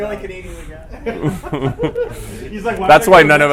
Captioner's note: laughter